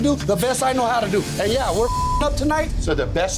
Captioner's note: beep